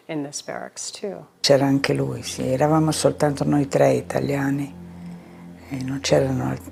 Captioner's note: speaking in foreign language